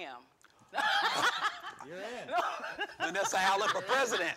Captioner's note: laughing